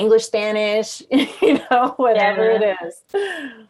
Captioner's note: chuckling